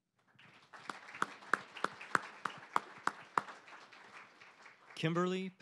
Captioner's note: applause